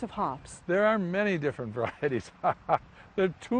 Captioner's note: laughs